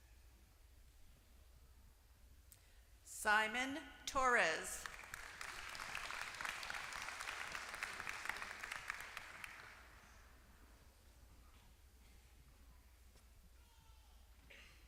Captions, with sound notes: Simon Torres. >> [APPLAUSE]